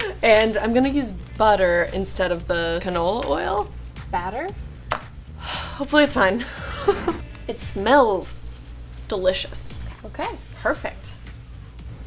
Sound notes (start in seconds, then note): 6.4 laughs